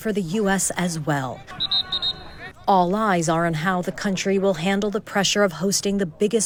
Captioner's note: whistle blows